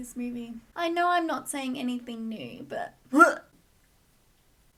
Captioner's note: vomit